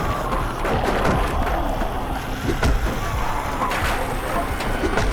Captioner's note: wood thudding